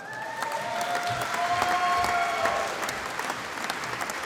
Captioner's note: applause